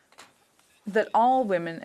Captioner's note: speaking French